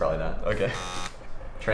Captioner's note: buzzer